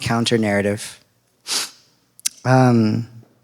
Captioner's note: sniffs